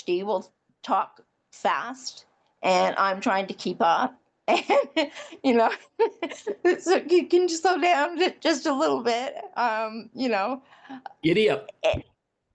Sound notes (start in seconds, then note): 4.6 laughs